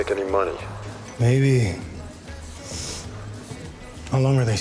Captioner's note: sniffs